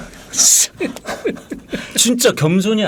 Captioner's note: scratching